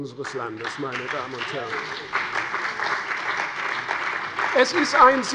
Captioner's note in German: Beifall bei der CDU und dem BÜNDNIS 90/DIE GRÜNEN